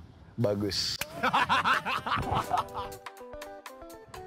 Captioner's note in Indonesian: Ketawa